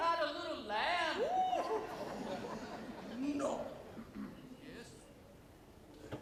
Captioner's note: audience laughs